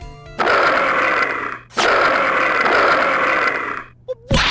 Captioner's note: groooooooooowl!